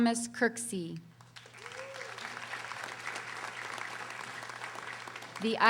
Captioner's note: audience applauding